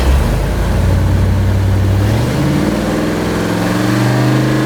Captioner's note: engine revving